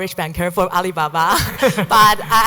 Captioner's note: laughing